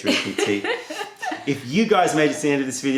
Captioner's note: laughter